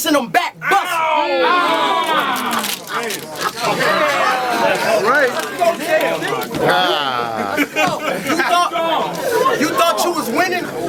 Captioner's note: crowd Reaction